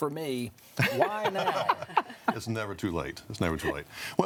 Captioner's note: people laugh